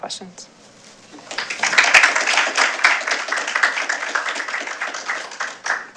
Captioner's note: applause